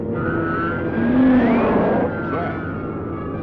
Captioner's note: squealing